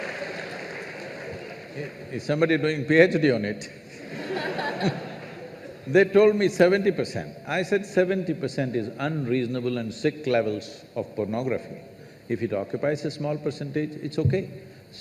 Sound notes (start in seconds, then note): 0.0 laughter/Applause; 3.9 laughter